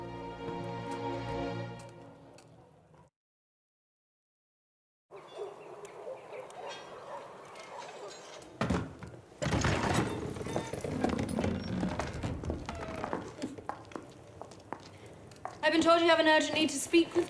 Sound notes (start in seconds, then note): 7.8 door opens